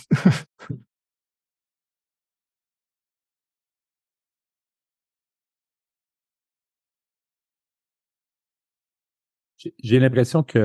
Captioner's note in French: Silence